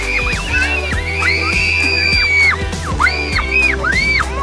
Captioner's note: kids giggling and squealing; kids screaming